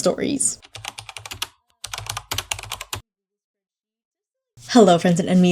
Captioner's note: keyboard typing